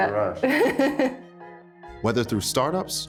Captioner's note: chuckles happily